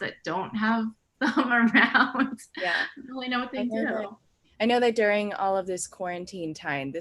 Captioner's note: laughs